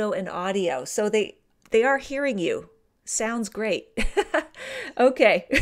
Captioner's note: laughter